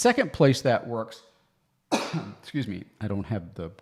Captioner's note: coughs